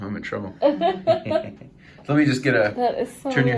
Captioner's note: laughing